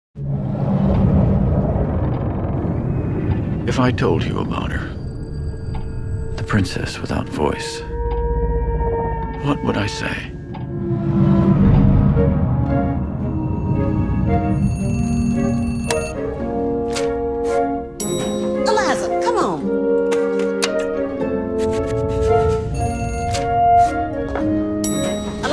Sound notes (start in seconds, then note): 11.6 ringing bell gradually grows louder; 15.7 click as an alarm is shut off